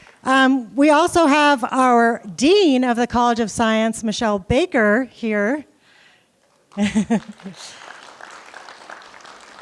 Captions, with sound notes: We also have our dean of the College of Science, Michelle Baker here. [APPLAUSE]